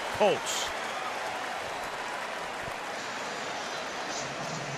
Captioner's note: applause